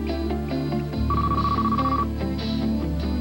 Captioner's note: phone rings again